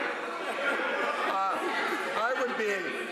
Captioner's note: laughter